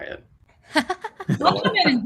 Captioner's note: laughs